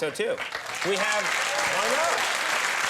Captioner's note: crowd cheers